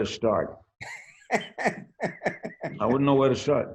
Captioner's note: laughs